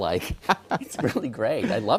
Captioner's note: laugh